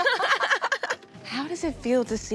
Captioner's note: all laughing